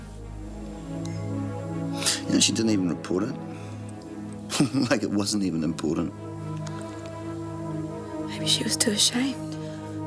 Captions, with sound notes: You know she didn't even report it? (laughs) Like it wasn't even important. - Maybe she was too ashamed.